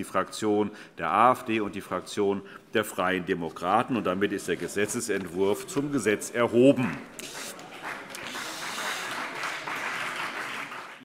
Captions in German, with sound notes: - Die Fraktion der AfD und die Fraktion der Freien Demokraten. Damit ist der Gesetzentwurf zum Gesetz erhoben. [Beifall CDU und BÜNDNIS 90/DIE GRÜNEN]